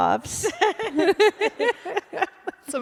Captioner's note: laughter